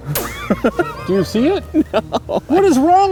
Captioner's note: laughs